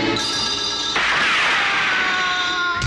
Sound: gunshot

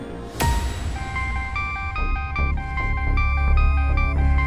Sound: mobile phone ringing

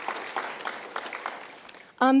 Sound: applauds

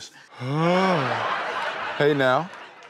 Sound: laugh track

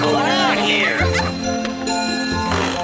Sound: the blue and green Triplet giggle

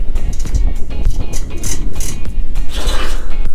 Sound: upbeat music; metal clanking; upbeat music

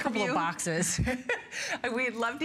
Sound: laughter

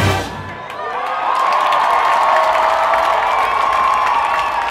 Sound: crowd cheers

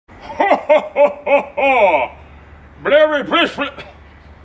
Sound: cough

